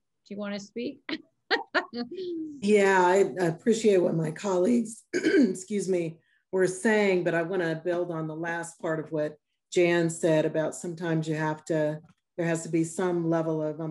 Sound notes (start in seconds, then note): 1.5 laughing; 5.1 clearing throat